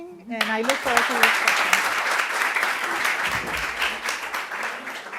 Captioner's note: audience applauding